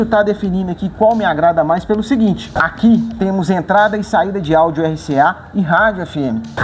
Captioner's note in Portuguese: Pulse